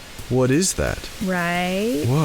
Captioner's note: noise floor raises